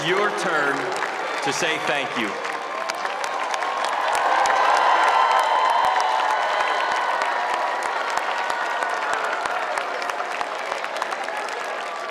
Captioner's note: cheers and applause